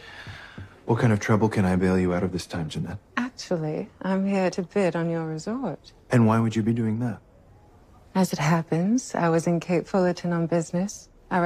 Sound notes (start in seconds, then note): none